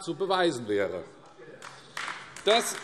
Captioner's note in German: Beifall AfD